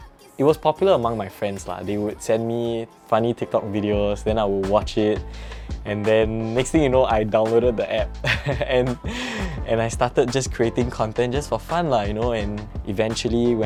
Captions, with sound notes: It was popular among my friends. They would send me funny TikTok videos, then I would watch them. And then, the next thing you know, I downloaded the app. (laughs) And I started creating content just for fun, you know, and eventually